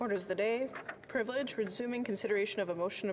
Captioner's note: speaking French